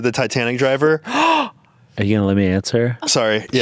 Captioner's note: gasping